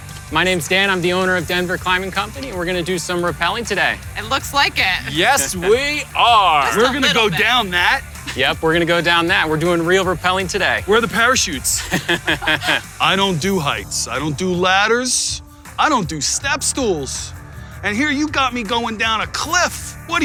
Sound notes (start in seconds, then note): 11.7 laughs